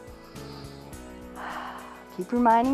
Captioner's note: inhales and exhales